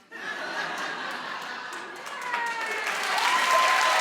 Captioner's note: audience laughing; applauding